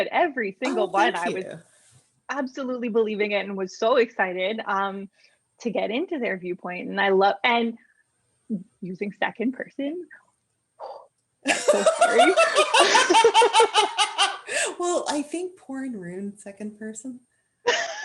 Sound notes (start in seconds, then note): 11.4 laughter; 12.8 exhales